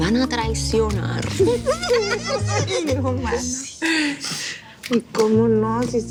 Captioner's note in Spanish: Risas